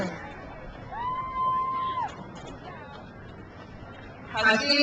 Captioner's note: crowd cheers